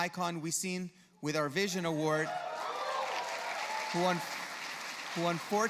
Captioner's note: cheers from the audience